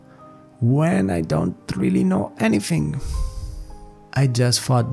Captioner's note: exhale